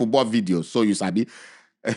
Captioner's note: chuckles